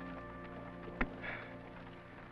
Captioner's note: sighs